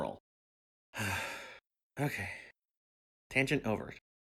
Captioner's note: sigh